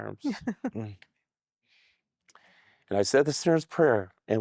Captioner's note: giggling